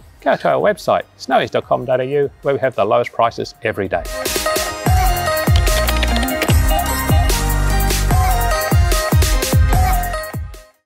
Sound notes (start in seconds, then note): 4.0 upbeat music; 5.0 keys clacking